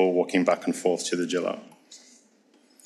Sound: speaks foreign language

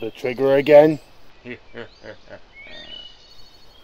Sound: Skeleton Soldier chuckles

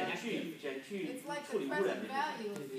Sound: speaking foreign language

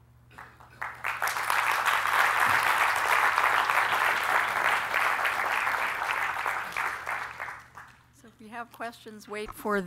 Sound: applause

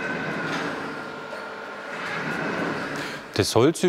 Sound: machine whirring

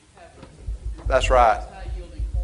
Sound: speaks faintly

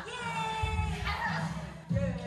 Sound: everybody exclaims: AUGH

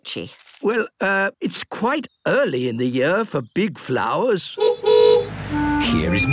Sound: honking

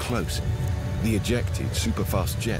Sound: black hole crackling

